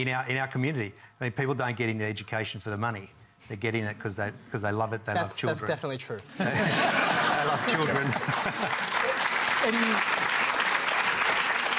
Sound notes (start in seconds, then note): 6.3 laughter